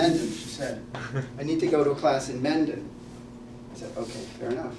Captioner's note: laugh